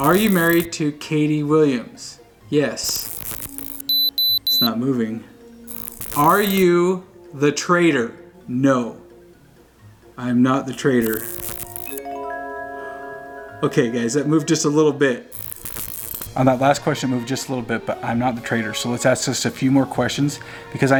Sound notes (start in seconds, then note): 2.8 digital buzzing and beeping; 11.0 digital buzzing and pleasant chimes